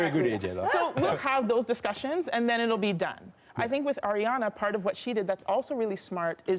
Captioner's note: laughter